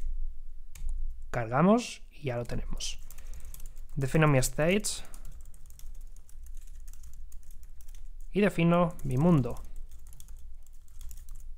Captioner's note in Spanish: Teclado